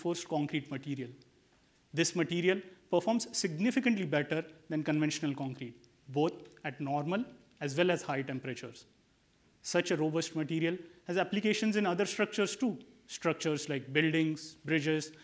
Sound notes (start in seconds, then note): none